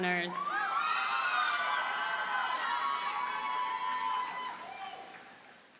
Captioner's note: audience cheers and applauds